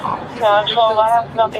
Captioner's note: radio chatter